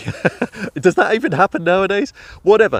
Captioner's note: chuckling